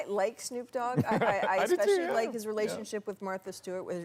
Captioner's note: laughter